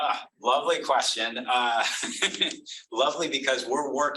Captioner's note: laughs